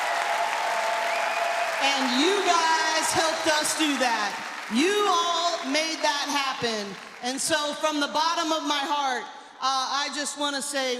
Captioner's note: cheers and applause